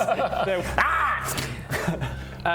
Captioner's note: pop